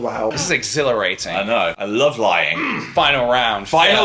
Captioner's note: groans